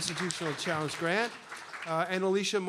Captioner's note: applause